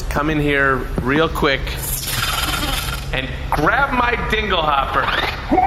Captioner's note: crackling